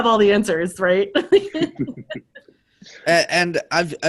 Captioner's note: all laughing